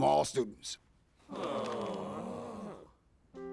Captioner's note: students groan